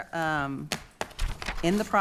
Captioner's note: taps papers